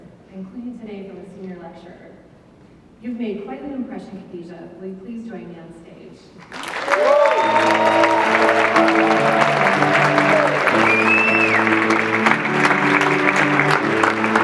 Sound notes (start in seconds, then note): 6.4 audience clapping; 9.3 jazz music